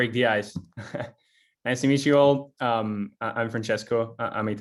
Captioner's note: laughs